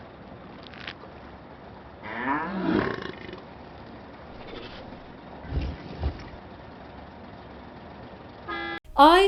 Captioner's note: foreign language 00:21:22